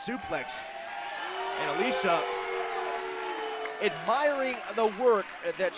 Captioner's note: crowd cheering